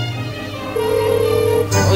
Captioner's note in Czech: zvonění telefonu